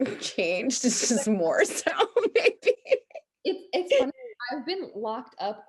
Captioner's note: laughs